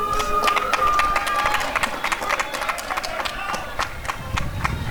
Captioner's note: applause and cheering